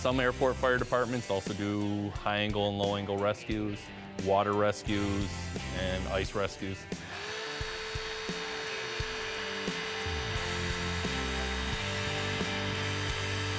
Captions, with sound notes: Some airport fire departments also do high angle and low angle rescues, water rescues, and ice rescues. (power cutters revving)